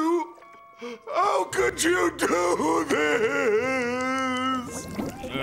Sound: crying

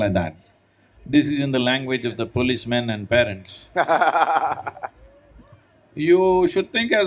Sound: Siddhant laughs

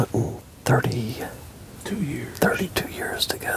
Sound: whispering

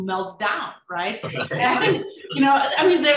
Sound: laughs

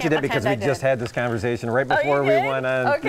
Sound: laughter

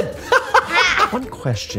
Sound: laughing

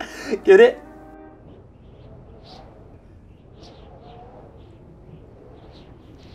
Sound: wind whistles

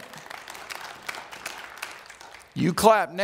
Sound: applause

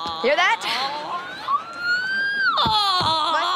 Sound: moaning

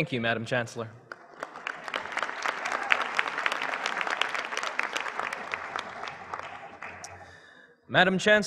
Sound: applause

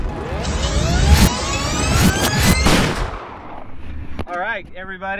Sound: audio rewind screeching

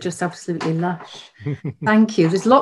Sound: chuckles

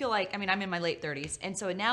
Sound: slaps

